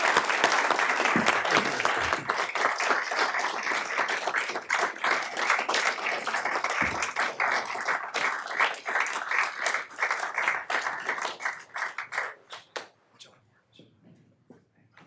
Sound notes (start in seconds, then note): 6.1 applause